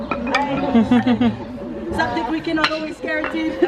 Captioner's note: group chuckles